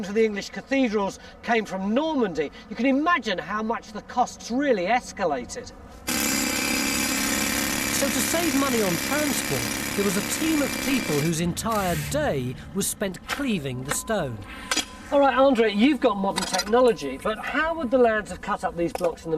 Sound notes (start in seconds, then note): 6.0 drill whirring